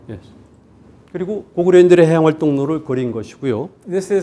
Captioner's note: speaking in Korean